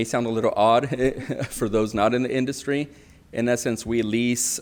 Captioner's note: laughs